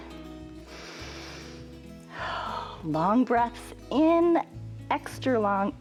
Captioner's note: inhales and exhales